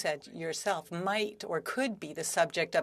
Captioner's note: speaking French